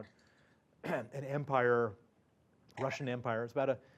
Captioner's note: cough